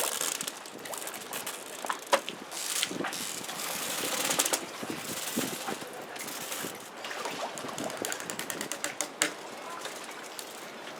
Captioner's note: water/boat noise